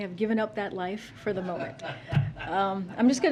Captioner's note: laughter